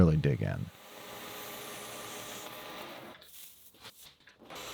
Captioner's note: machine whirring